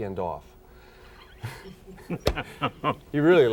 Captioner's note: laughing